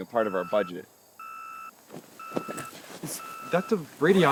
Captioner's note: beeping